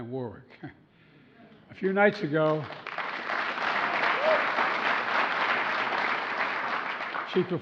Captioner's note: applause